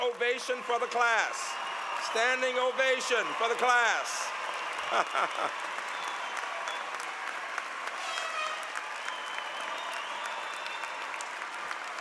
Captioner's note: laughter